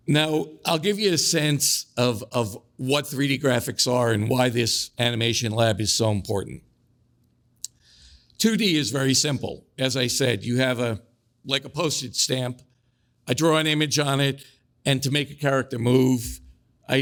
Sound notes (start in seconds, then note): none